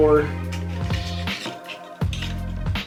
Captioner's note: sing-songy